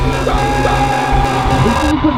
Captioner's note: screaming